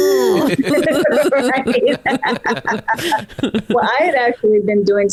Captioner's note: all laughing